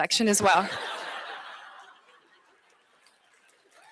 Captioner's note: laughter